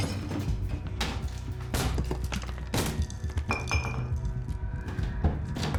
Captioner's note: plasterboard breaking; very loud banging